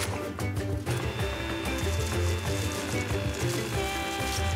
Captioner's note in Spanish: sonido de la sopladora